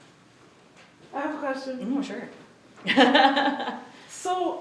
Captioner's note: laughs